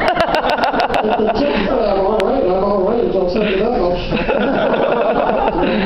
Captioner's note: laughter